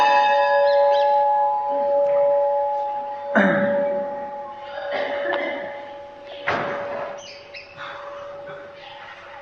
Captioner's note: bell Rings